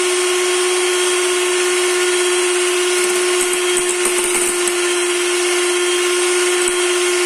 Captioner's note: whisking